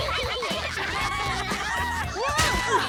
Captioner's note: Max whines; children cheering and laughing; body thuds